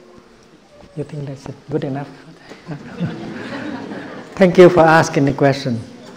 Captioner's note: crowd laughs